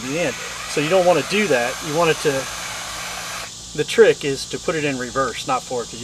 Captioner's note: drill